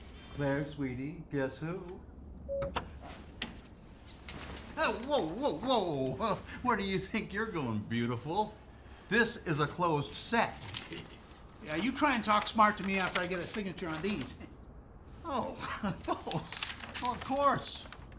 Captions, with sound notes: Claire, sweetie. Guess who? (lock chimes) Oh, whoa, whoa, whoa. Where do you think you're going, beautiful. This is a closed set. - (snickers) Yeah, you try and talk smart to me after I get a signature on these. - Oh, those. Oh, of course.